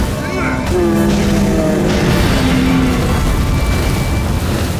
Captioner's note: grunt; bellow; flames crackle, die down